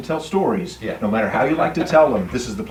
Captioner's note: laughing